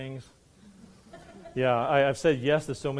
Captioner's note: laughing